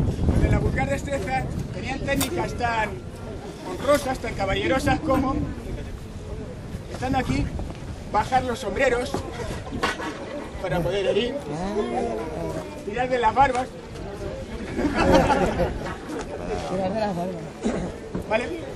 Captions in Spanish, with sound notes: Los de la vulgar destreza tenían técnicas tan honrosas, tan caballerosas, como... Estando aquí, bajan los sombreros, para poder herir... [ el público comenta ] Tirar de la barba... [ el público se rie y comenta ] ¿Vale?